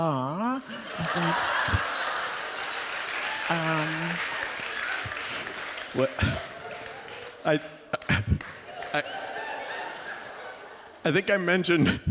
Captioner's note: laughter